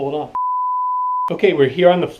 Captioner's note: beep sound